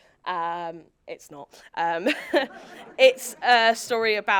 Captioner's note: laughs; audience laughing